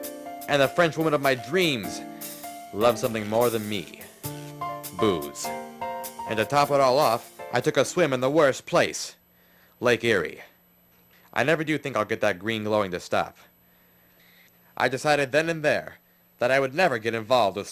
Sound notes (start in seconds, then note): none